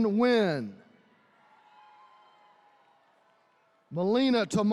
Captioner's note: attendees cheering